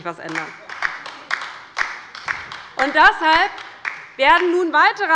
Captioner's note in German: Beifall bei der LINKEN